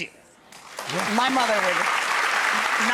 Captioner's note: audience applauds